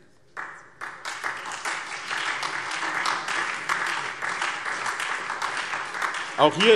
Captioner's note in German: Beifall SPD und Freie Demokraten